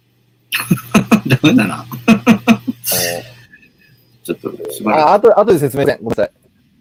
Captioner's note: laughs